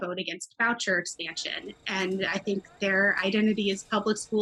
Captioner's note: children chattering